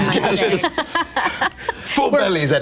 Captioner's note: group laughter